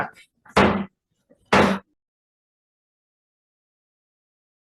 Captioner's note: banging gavel